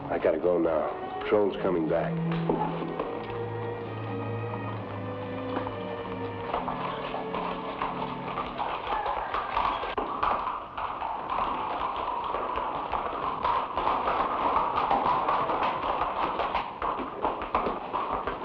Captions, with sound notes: I gotta go now, patrol's coming back. (horse hooves patter)